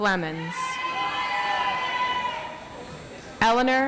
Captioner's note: audience applauds